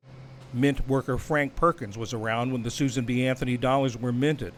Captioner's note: voice-over